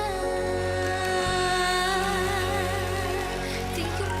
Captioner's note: music fades out; applause